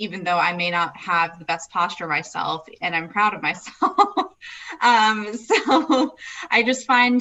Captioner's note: laughs